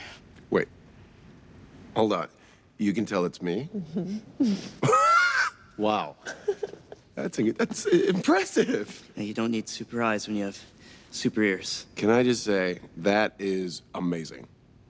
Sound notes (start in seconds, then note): 6.2 laughs